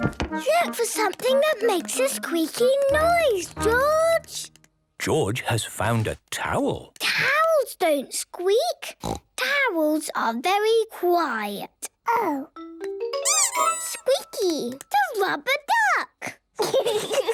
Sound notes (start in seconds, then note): 0.0 Peppa and George laughing; 0.0 loud footsteps; 13.2 squeaks